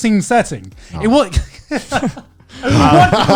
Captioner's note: laughs